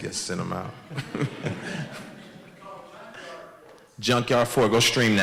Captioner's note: audience laughs